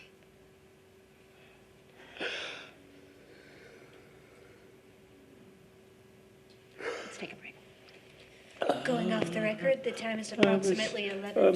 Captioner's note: crying